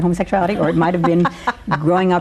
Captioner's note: laughs